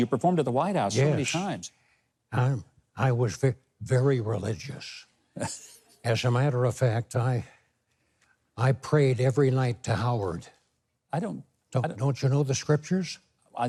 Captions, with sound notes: - You performed at the White House so many times. - I was very religious. (Mike laughing) As a matter of fact, I, I prayed every night to Howard. - I don't- - Don't you know the scriptures?